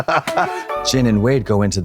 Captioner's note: blonde Women cachinnate; bright chime